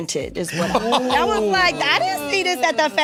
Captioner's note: laughs